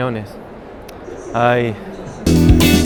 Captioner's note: sighs